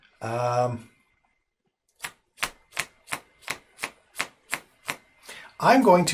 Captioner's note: annoying card flicking